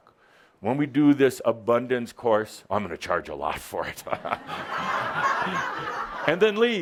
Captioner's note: laughter